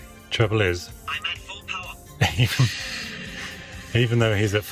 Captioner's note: engine revving